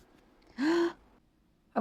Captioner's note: inhales